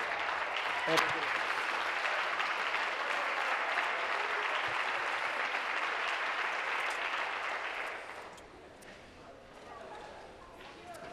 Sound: applause

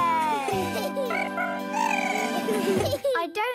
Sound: chirping

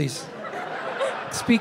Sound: audience laughing

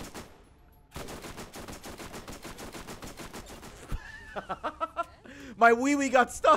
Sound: laughs

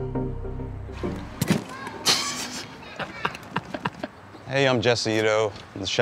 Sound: lantern thuds; laughing

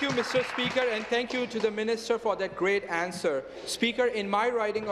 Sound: applause

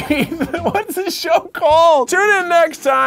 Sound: chuckles

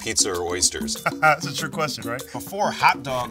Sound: laughs

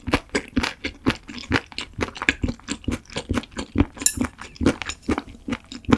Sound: the sound of chewing stingray bones

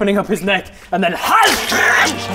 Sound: hyagggh

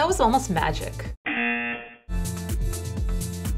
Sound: buzzer

